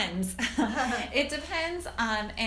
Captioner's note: laugh